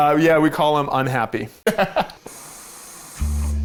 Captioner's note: laughs